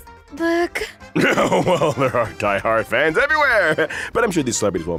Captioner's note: cough